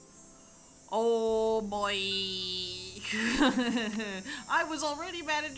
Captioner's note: laughs